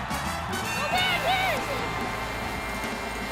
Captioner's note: crowd cheers